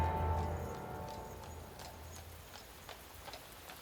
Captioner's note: hooves clomping